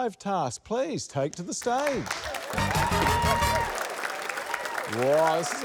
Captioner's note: applause, cheering